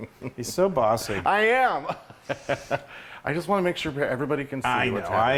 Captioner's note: laugh